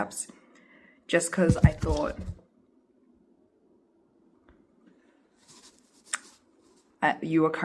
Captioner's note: rustling sounds